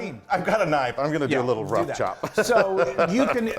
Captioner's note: laugh